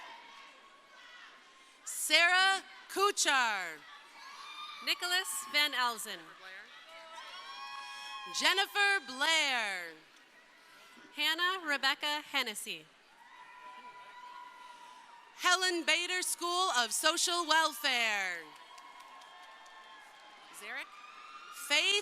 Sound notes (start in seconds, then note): 3.6 crowd cheering; 18.9 crowd cheering